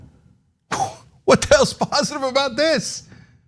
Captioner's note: laugh